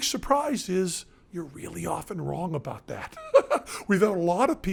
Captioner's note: laughs